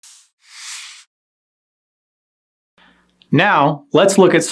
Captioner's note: whoosh